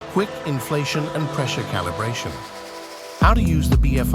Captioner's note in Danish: hurtig oppustning